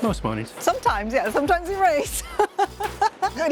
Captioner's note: laughs